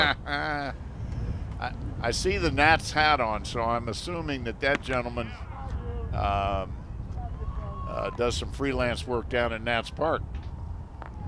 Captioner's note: laughter